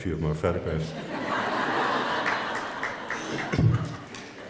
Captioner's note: laughs